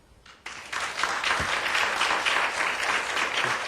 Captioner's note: applauding